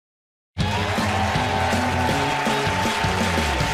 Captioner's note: cheers and applause